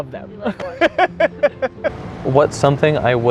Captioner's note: laughing